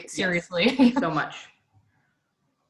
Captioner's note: laughs